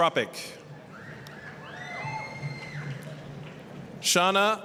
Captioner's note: applause, cheering